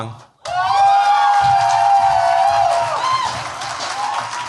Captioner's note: cheers, applause